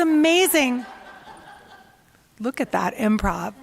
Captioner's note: laughter